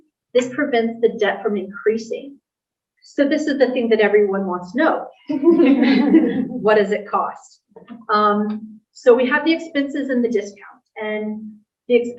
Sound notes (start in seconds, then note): 5.3 laughter